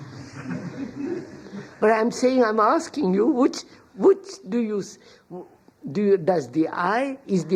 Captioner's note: laughter